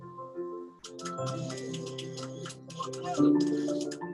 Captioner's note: people clapping